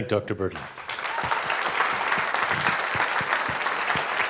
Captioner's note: audience clapping